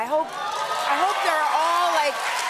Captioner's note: cheers and applause